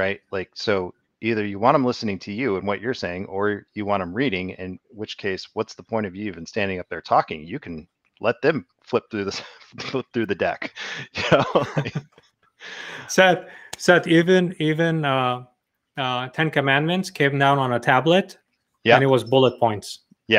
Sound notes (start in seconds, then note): 11.3 laughs